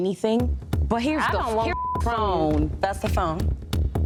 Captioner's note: beep